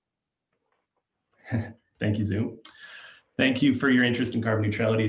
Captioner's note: chuckling